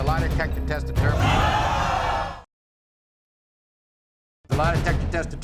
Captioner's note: audience oohs